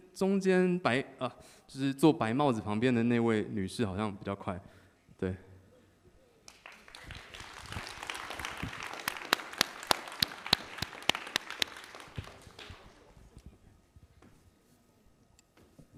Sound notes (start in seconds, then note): 6.4 applause